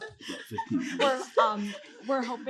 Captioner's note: chuckles; whispering